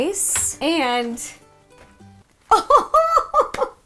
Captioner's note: laughs